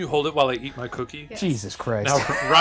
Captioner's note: chuckles